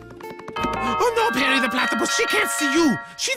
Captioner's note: doorbell rings